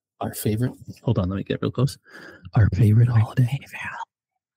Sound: whisper

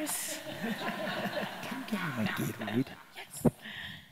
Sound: audience laughing

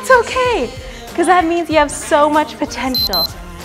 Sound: beeps

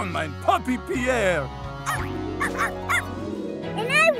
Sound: barking

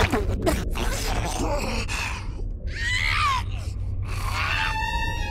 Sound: female zombie sounds

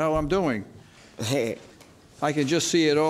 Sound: laughs

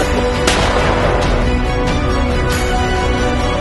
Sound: gunshot firing; suspenseful music

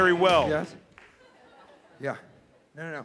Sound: laughing

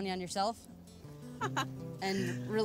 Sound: laughs

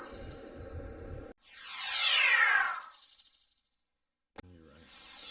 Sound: synthesized whoosh, followed by a digitized ringing bell; whooshing and digitized bell sounds continuing

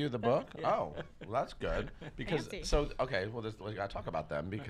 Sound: laughs

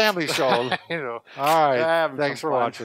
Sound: laughing

